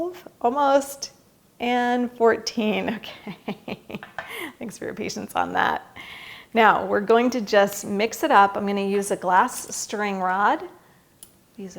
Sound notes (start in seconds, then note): 3.1 laughs